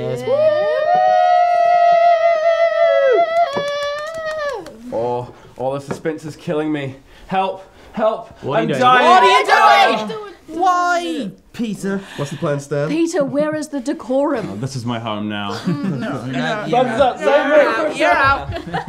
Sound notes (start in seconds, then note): 3.3 lone cheer and clap continues; 15.5 giggles; 18.2 all laughing